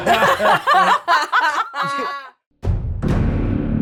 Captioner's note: players laughing